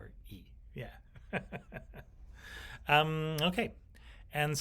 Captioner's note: chuckles